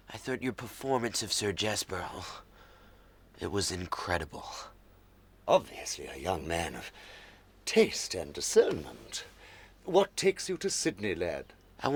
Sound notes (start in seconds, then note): none